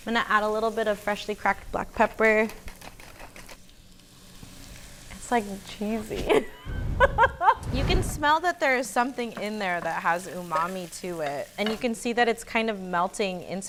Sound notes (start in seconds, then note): 3.6 food sizzling; 6.1 laughs